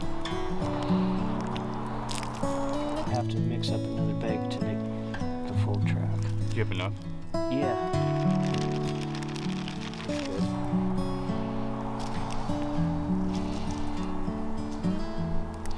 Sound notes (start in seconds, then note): 8.3 bag crackling; 10.7 easygoing music continues